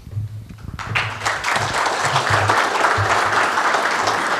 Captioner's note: audience applauds